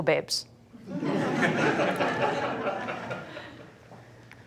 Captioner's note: laughter